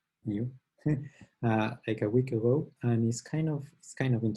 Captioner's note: chuckles